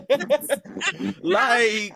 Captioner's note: laughter